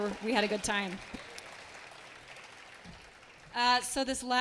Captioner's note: attendees clapping